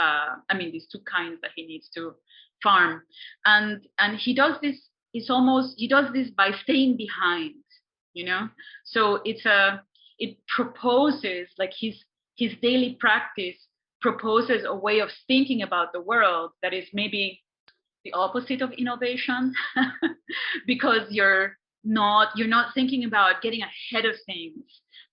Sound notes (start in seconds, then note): 19.6 laughs